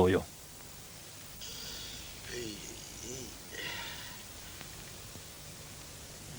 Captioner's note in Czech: vzdychání